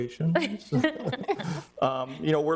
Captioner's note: people laughing